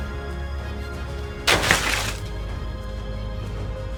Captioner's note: crash and scattered rustling